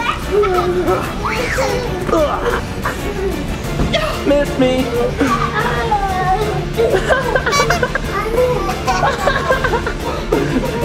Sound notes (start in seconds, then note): 0.0 kids squealing; 7.5 everyone giggling